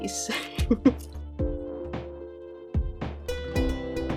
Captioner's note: laughs